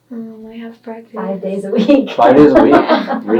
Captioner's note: laughing